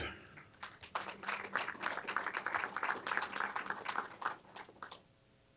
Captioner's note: applause